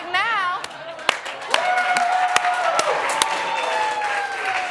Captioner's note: cheering and applause